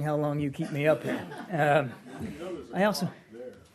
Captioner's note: laughter